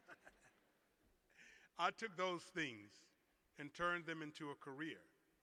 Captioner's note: laughter